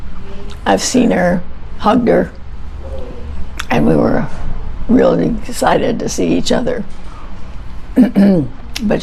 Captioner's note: clears throat